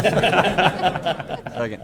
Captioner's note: laughter